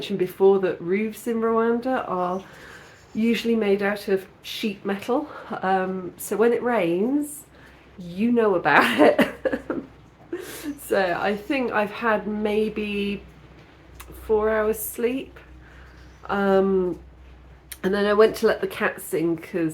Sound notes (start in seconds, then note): 8.8 laughing